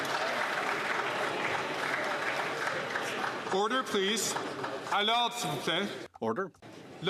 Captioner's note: some Applause